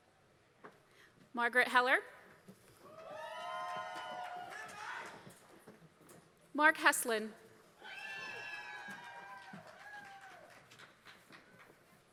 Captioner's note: applause